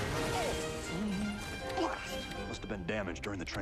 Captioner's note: groans